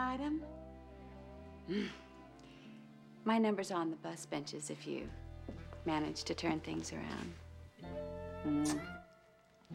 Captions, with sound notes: OH... D ANMEL, ABOUT YOU AND ME AS AN ITEM... ( growls ) MY NBEUMR'S ON THE BUS BENCHES IF YOU MAGANE TOUR TN INTHGS AROUND.